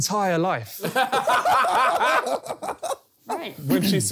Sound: laughing

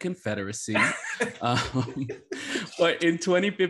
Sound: laugh

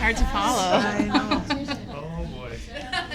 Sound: laughter

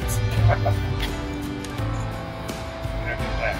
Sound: executive laughs

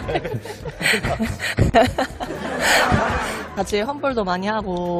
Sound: laughing

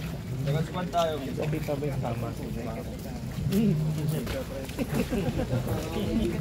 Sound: laughs

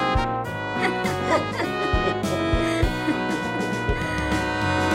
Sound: both laughing

